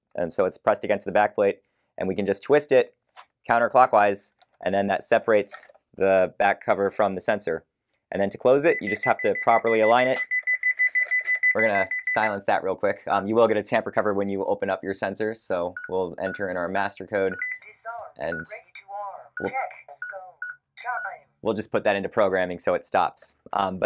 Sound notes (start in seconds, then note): 10.2 beeping